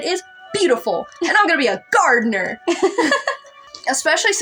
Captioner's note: laugh